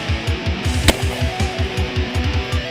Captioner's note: gunshot